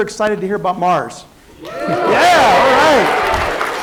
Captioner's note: applause